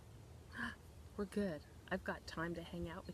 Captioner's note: gasps